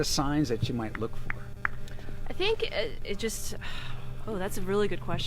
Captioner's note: sighs